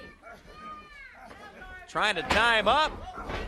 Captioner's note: crowd chatter